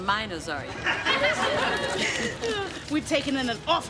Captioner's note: chuckles